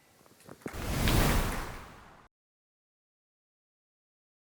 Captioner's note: whooshing